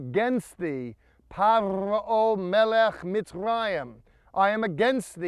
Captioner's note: speaking in Hebrew